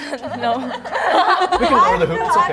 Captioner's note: laughs; members laugh